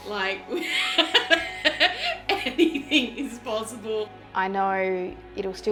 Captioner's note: laughing